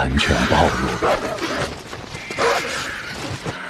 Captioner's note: cries of the vultures